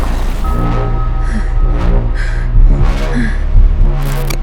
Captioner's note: heavy breathing